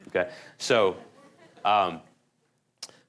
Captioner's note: laughter